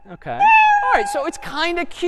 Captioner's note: meow